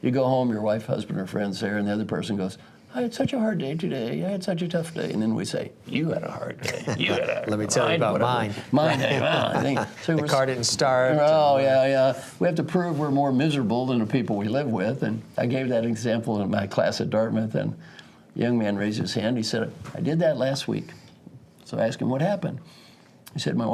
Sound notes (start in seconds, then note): 6.6 laugh